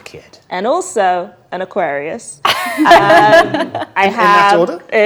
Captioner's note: group laughs